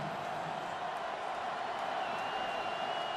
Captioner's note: crowd cheering